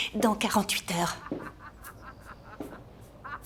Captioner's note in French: rires